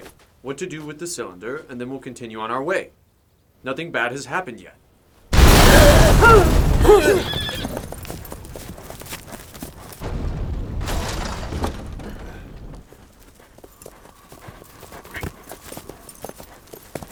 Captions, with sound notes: what to do with the cylinder, and then we'll continue on our way. Nothing bad has happened yet. (booming) (gasping)